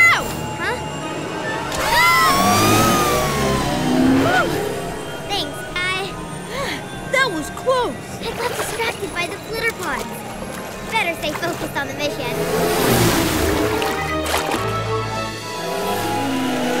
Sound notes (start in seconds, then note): 1.7 both scream